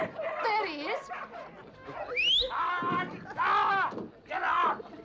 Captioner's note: whistling; screaming